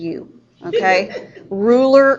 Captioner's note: students laughing